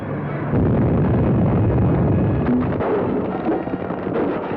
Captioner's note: explosion booms